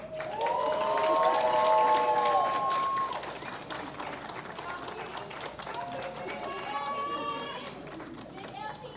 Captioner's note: cheers and Applause